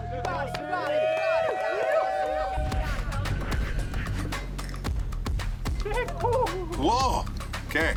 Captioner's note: crowd cheering